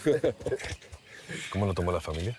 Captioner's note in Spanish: ambos ríen